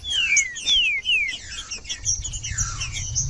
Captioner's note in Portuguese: trinca ferro cantando